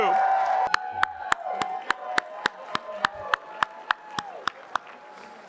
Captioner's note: applause